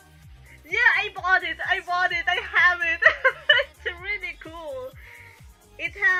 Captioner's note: laughs